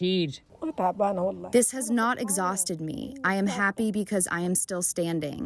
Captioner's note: through translator